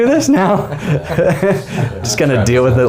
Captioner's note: men laughing